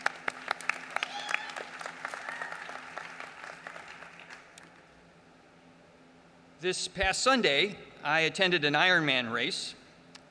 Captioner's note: applause